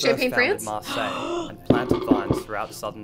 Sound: gasps

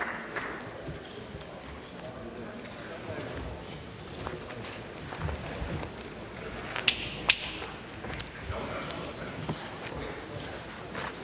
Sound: applause

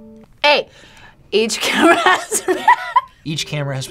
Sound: laughs

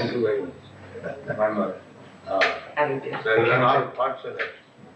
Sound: chuckles

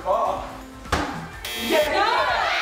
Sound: buzzer; screaming

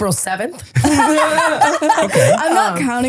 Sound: laughing

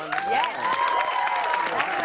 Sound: cheers and applause

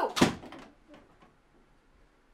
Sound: door slamming

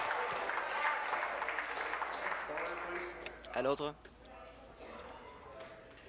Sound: applause

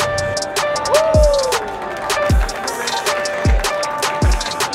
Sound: group applauding

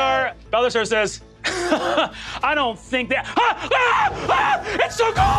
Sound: chuckles; screams

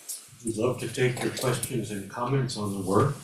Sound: audience applauding

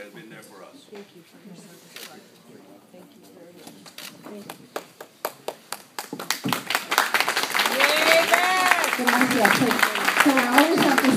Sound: applause; Spanish

